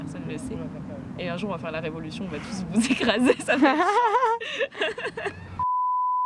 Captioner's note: laughter